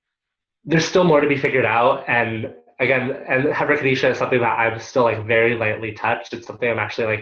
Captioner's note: Hebrew